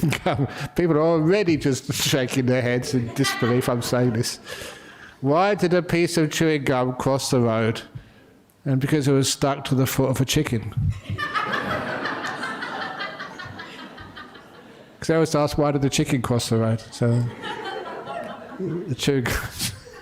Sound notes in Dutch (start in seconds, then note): 13.8 lachen